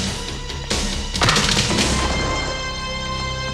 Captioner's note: Kyoki grunting; punch thudding; tense music